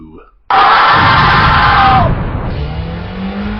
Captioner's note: screams